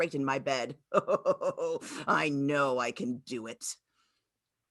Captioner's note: laughs